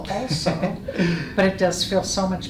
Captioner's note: laughs